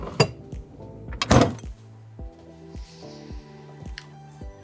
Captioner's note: fridge door shutting